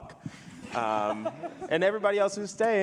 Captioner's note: panelists and audience laughing